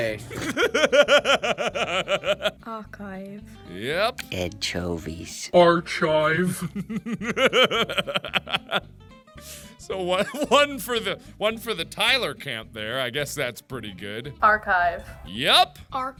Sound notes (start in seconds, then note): 6.5 laughter